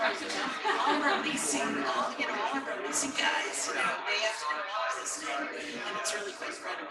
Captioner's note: people chattering indistinctly